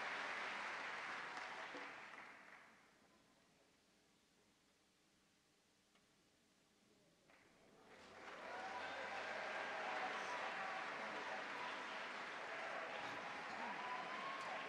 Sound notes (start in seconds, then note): 7.3 audience claps